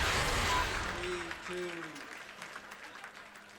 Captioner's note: applause